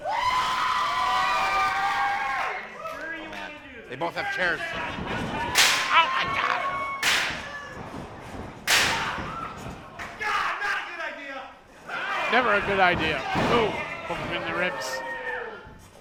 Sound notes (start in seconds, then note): 0.0 crowd cheering; 4.7 crashing